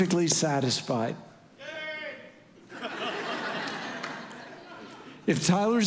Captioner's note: congregation laughing